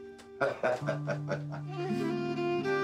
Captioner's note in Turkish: Gülüyorlar